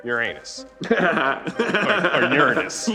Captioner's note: laughing